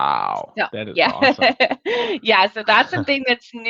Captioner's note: laughs